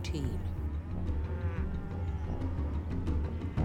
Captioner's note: mooing